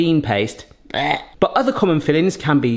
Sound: gags

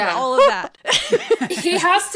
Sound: laughing

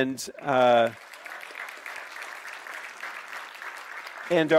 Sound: clapping

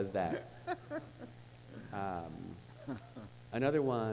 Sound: laughing

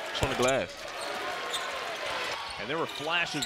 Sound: fans cheering

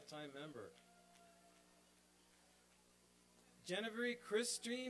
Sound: applause and cheering

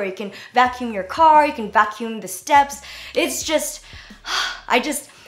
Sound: sighs

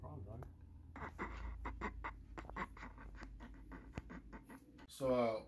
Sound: Herculano laughs at Richard

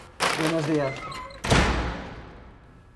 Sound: door slamming

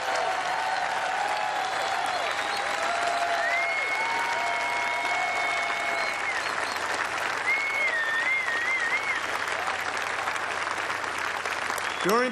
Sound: cheers and applause

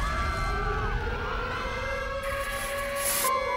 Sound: sirens blaring

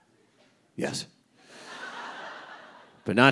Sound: audience laughing

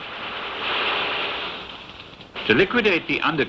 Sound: guns thundering

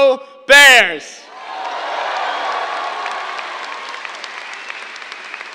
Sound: cheers, applause

